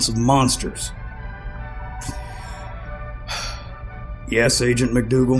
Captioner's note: Col. Blackthorn sighs